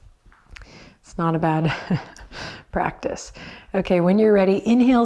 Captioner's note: chuckles